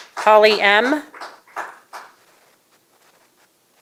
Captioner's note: applause